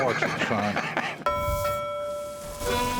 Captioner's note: laughs; bell ringing